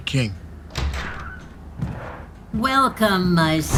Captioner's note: door opening